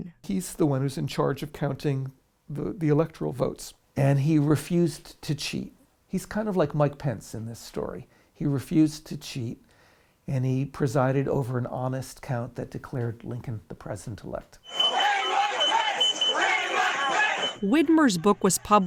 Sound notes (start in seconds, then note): 14.7 crowd